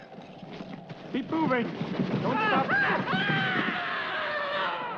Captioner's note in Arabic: صرخات الجندي; يصرخ الجندي